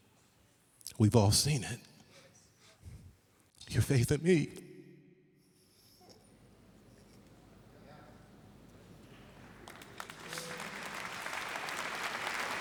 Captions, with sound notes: Your faith in me. (applause)